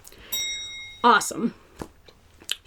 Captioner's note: bell dings